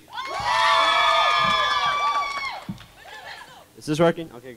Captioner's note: crowd cheering